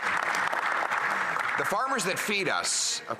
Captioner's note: applause